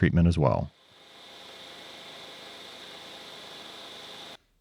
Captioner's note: machine whirring